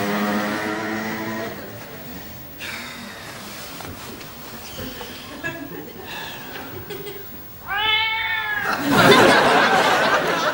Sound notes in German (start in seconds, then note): 7.6 Katzen miauen